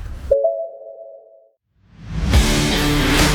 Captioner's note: sound effects for voice recognition